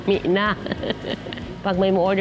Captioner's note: laughs